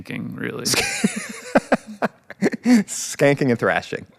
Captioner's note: Chris laughs